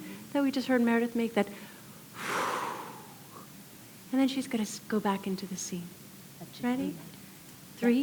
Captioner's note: exhale